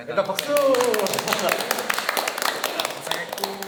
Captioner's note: clap